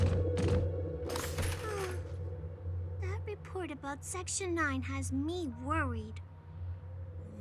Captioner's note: sighs